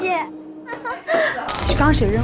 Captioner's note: giggling